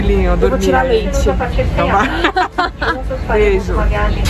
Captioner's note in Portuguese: risos